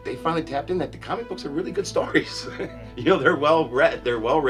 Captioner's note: laughs